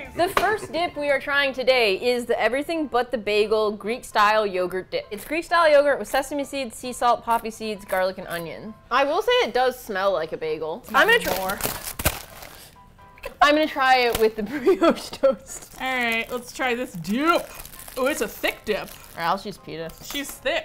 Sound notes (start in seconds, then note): 10.9 loud plastic rustling; 14.4 laughs